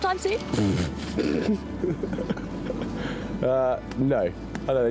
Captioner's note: Prince laughs